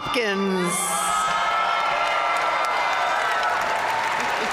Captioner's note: audience cheering and applauding